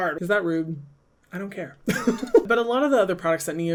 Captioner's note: laughs